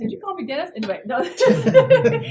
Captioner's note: laugh